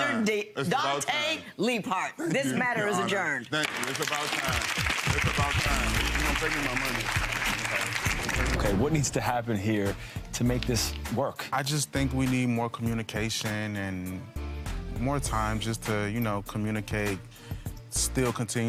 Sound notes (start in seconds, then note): 4.2 gavel pounds; 7.1 audience applauds